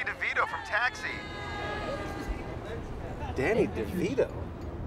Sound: riders shouting

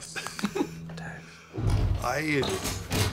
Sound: whispers

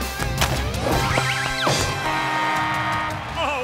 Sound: buzzer sounding

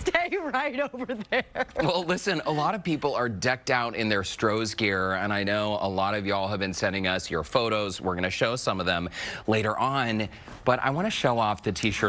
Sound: laughter

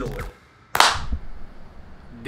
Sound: claps

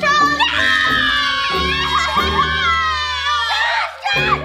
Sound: scream

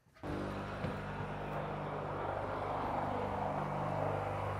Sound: drill whirring

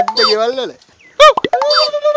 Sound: hoots

